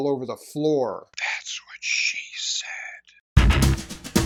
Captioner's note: whispers